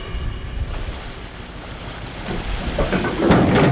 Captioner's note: splashing; metal clunking